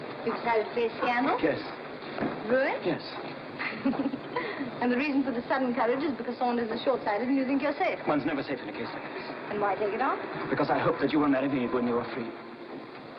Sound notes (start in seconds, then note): 3.6 laughing